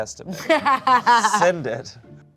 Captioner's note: laughs